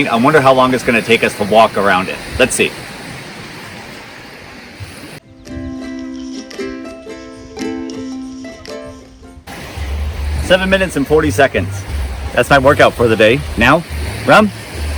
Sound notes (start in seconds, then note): 5.2 soothing music; 5.6 wind swooshing